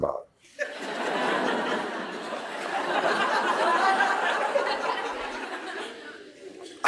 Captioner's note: laughter